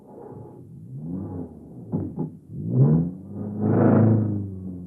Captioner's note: car engine revs